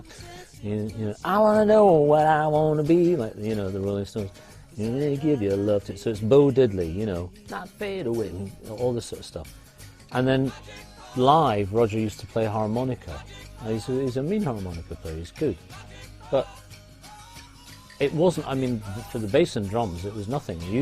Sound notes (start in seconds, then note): 2.0 mimicking guitar; 6.5 humming